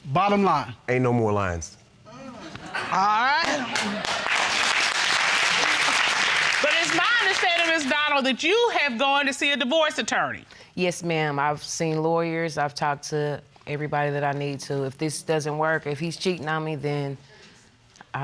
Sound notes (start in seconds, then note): 3.4 audience applauding